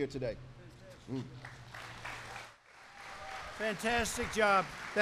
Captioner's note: applause